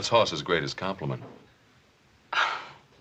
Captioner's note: quiet laugh